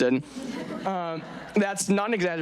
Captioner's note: audience laughing